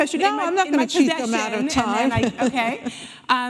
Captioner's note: laughing